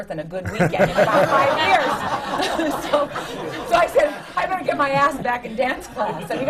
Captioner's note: laughter